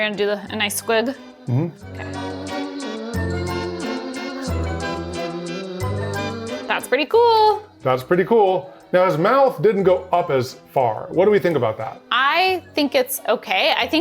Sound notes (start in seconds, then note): 1.4 humming; 2.8 spooky music